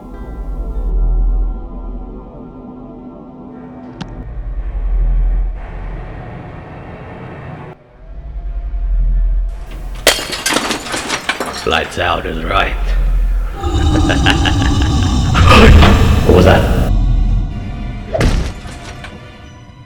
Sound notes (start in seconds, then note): 3.7 breaking glass; 4.2 intense music; 13.5 loud beastish growl; 16.7 smashing slam